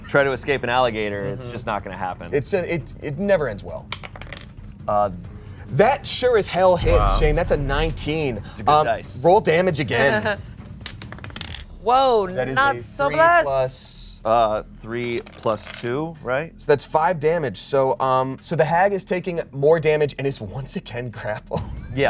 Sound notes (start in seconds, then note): 3.8 die rolls; 9.9 laughs; 10.7 die rolls